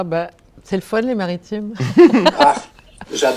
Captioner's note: laughter